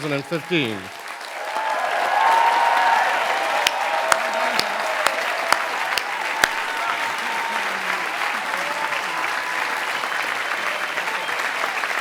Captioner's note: applause